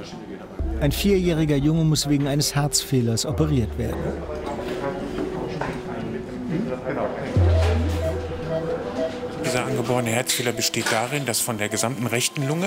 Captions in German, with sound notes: Ein vierjähriger Junge muss wegen eines Herzfehlers operiert werden. (Piepen) Der Herzfehler besteht darin, dass von der gesamten rechten Lunge